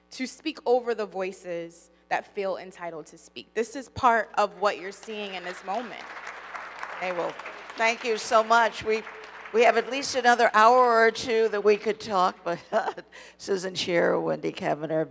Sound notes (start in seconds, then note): 5.3 audience applauding; 12.7 laughs